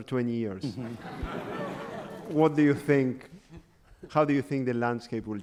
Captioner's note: audience laughter